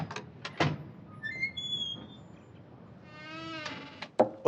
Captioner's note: door creaking